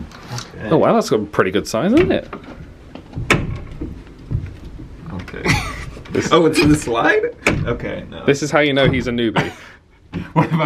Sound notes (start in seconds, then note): 3.5 handle rattling; 5.3 laughs